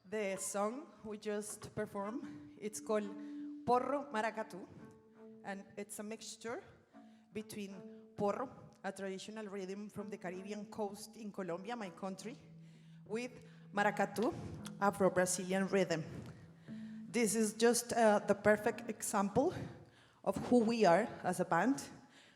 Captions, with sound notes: The song we just performed, it's called (speaking in foreign language) and it's a mixture between (speaking in foreign language), a traditional rhythm from the Caribbean coast in Colombia, my country, with (speaking in foreign language) Afro-Brazilian rhythm. This is just the perfect example of who we are as a band